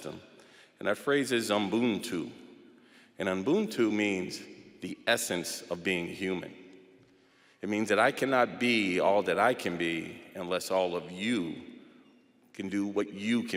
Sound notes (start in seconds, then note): none